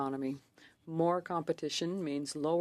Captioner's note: speaking French